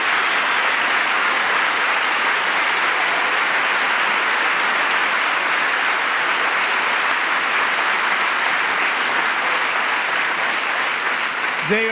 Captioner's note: applause